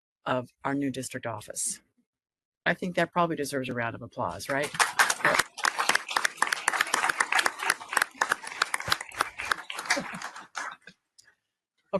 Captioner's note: applause